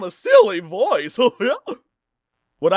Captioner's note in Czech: smích